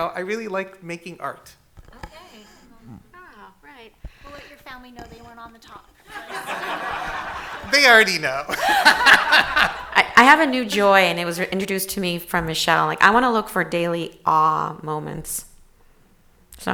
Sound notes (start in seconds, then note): 6.0 audience laughing; 8.9 everyone laughing